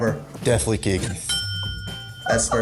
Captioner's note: ding; laughs